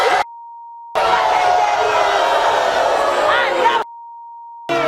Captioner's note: audience booing